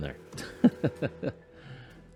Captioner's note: laughs